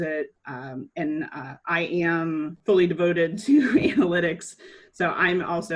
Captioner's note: chuckles